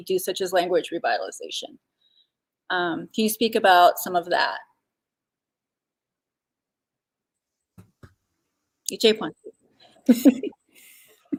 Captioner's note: speaking Dakota